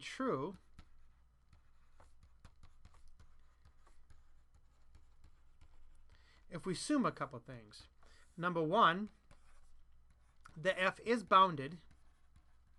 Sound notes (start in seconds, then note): 0.0 writing